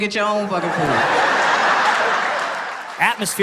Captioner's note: audience laughing